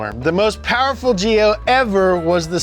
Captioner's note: none